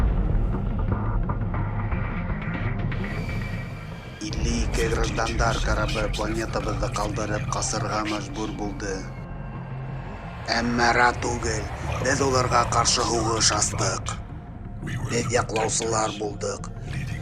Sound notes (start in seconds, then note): 0.2 dramatic music; 9.5 airplane engines